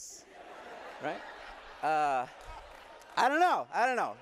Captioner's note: laughter